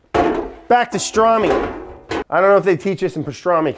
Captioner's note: pan loudly clunks; pan clanking